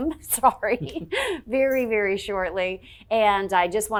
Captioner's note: chuckles